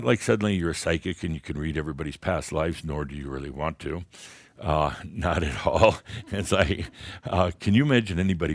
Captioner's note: Adamus chuckles